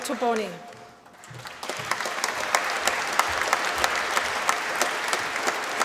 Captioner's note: applause